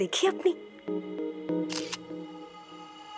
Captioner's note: Clicks